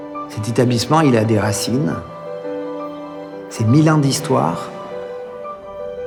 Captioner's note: speaking in foreign language continues